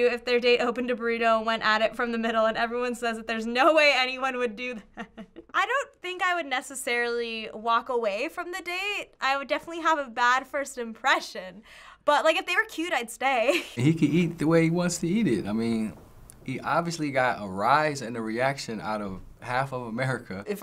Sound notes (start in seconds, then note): 4.9 chuckles